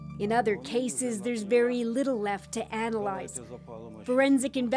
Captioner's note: speaking alternate language